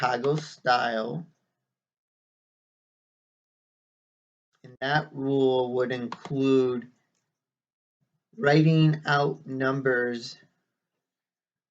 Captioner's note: click of trackpad